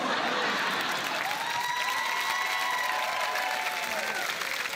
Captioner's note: cheering, applause